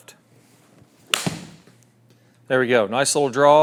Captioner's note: ball cracking